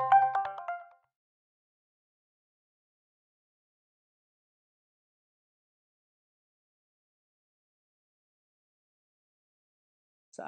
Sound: silence

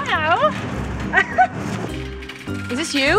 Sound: laughs

